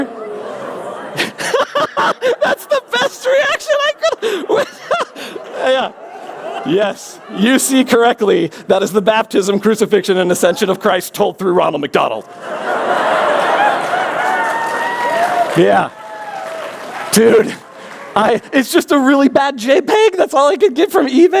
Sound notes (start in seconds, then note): 0.1 laughs; 0.2 gasps; 12.2 laughter; 13.3 applause